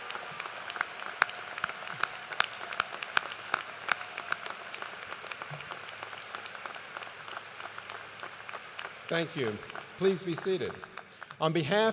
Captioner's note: cheers and applause